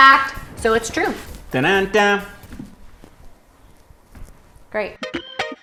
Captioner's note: imitates drum roll; funky music